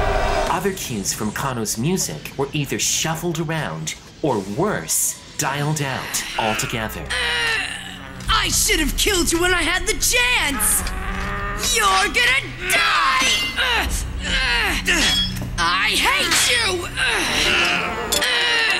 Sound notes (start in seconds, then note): 6.0 Dilandau grunts; 6.3 low bass tone; 10.8 van straining; 12.5 both grunting; 14.2 Van shouting; 17.0 Dilandau grunts